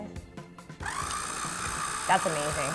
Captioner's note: machine running